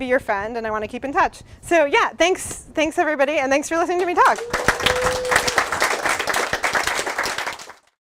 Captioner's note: applause